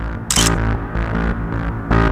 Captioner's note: photo click